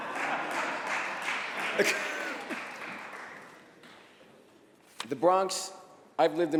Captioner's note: laughter